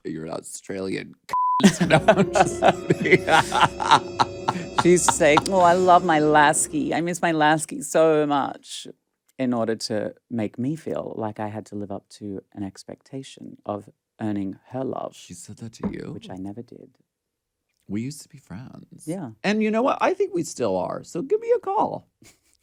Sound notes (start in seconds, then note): 1.3 beep; 1.6 Alaska laughs